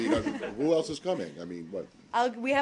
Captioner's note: laughter